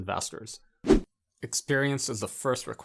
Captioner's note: air whooshing